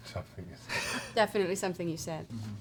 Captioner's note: laughs